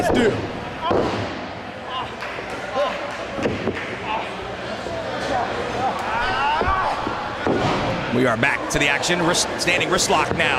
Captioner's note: applause